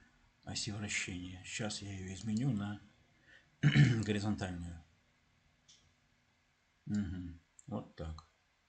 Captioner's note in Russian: откашливается